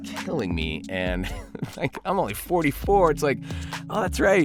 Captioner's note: laughs